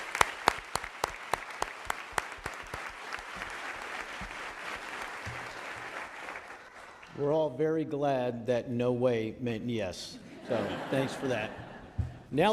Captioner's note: applause